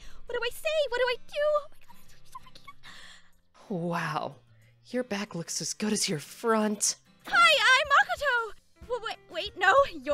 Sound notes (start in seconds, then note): 2.8 gasps